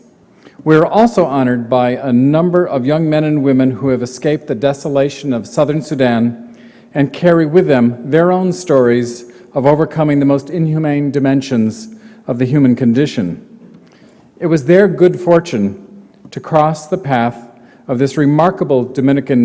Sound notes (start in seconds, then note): none